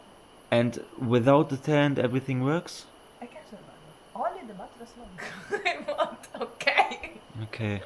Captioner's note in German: gelächter